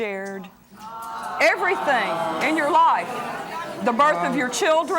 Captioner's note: audience exclaims